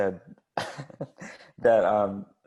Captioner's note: laugh